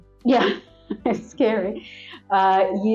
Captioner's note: laugh